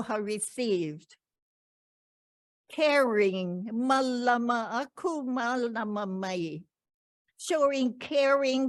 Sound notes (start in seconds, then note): 3.2 speaking in ‘Ōlelo Hawai‘i